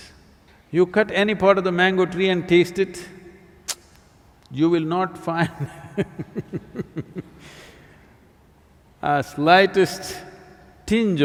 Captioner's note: laughs